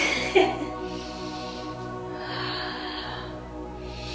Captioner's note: breathing deeply